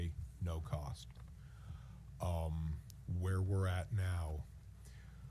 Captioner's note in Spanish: suspiro